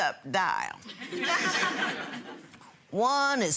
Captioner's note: audience laughing